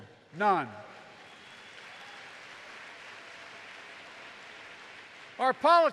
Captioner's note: applause